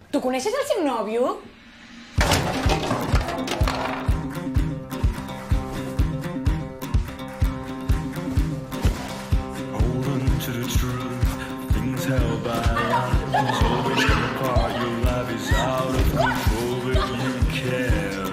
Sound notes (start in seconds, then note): 2.1 clattering; 4.5 frenetic music; 12.8 screams; 16.0 laughs